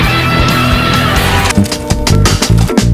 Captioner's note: film crinkles